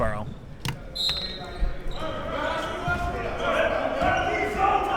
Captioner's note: whistle blows